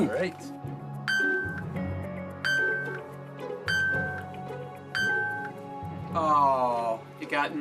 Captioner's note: beeping